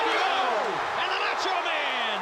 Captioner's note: crowd cheering